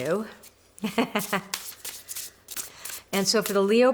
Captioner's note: laughs